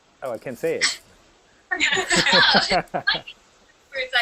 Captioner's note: laughter